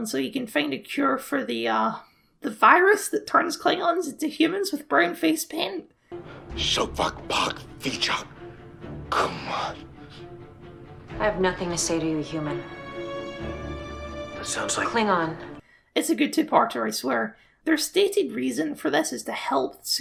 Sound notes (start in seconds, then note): 6.4 in Klingon